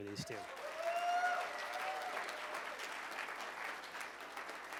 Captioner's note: cheers and applause